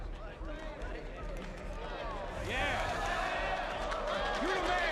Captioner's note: impressed murmurs